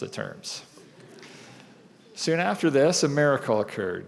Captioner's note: laughter